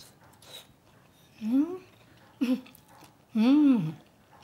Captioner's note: laughs